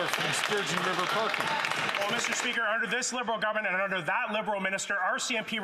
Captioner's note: some Applause